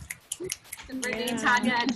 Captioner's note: snapping